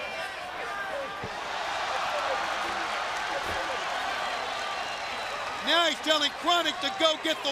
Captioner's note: crowd cheering